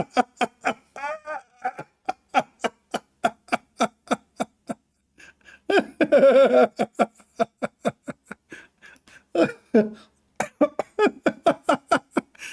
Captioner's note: Ketawa